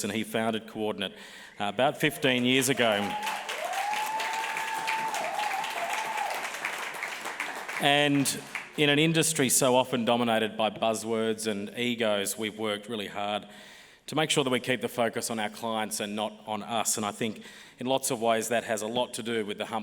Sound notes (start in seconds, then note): 2.0 applause